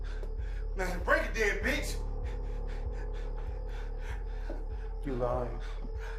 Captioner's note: panting